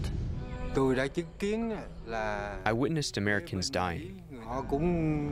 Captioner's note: through translator